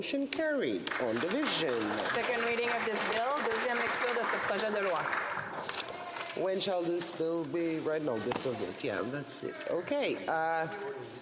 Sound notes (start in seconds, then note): 5.3 some Applause; 8.0 speaking French